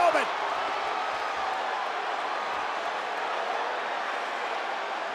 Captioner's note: audience cheers